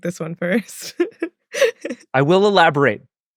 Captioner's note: laughs